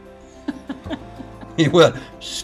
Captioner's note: laughing